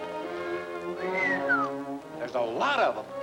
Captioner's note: cows mooing; Sparrow whistling